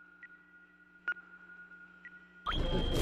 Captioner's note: beeping